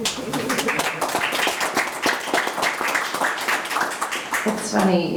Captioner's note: everyone applauding